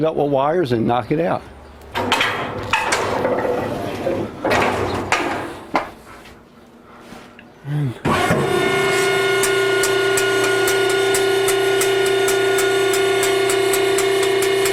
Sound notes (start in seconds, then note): 1.9 the sound of gate being closed